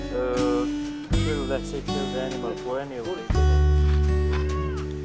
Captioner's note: speaking in foreign language